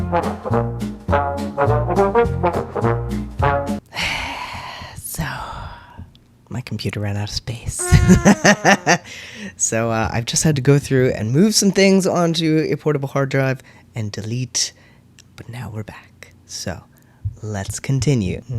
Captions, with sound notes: [sigh] So my computer ran out of space. [laugh] So, I've just had to go through and move some things on to a portable hard drive and delete. But now we're back, so let's continue.